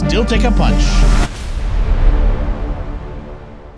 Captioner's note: explosion